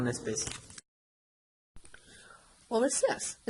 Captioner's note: silence